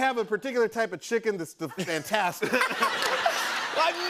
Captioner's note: laughter